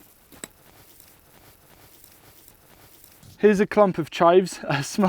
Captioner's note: dirt continues to loosen and fall